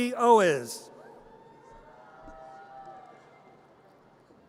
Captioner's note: audience cheers